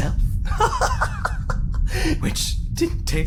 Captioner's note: laughs